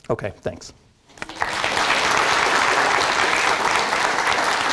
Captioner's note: applause